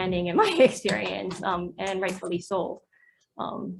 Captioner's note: chuckles